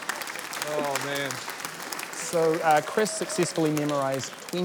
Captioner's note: laughter, applause